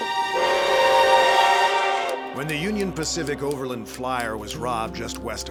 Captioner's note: train whistle blows